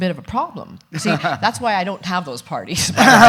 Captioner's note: laughs; laughs loudly